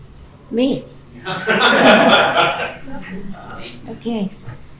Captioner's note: laughing